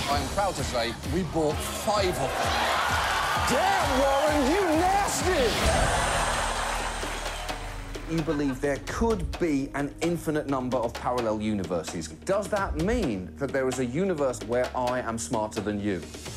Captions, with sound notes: I'm proud to say we bought five of them. -Damn, Warren, you nasty! -(AUDIENCE CHEERS) (LAUGHTER) You believe there could be an infinite number of parallel universes. Does that mean that there is a universe where I am smarter than you?